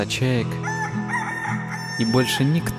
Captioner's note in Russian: звуки чаек